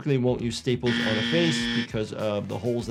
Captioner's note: buzzer buzzing